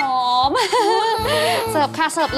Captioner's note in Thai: หัวเราะ